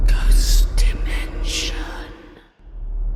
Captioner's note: creepy ambience; whispering Voices